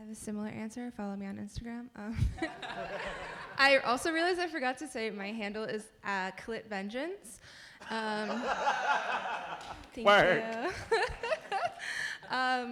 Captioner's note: laughter